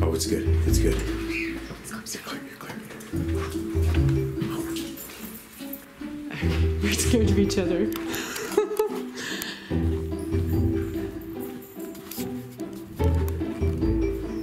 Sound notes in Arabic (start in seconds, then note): 4.2 موسيقى درامية; 8.0 يضحك; 8.9 موسيقى درامية